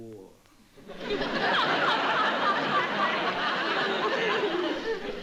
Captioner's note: audience laughing